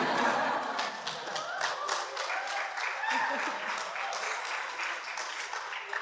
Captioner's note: audience applauding and cheering